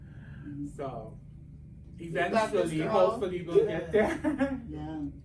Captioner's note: laughs